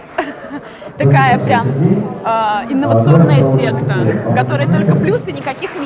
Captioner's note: laughing